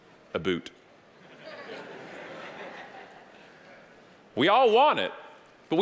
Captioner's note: audience laughing